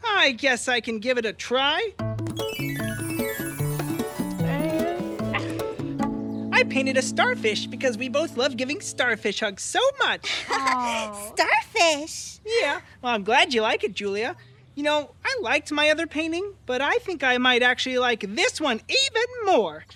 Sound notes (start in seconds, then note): 2.0 upbeat music; 10.2 laughs